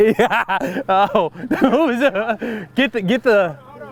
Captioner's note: laughs loudly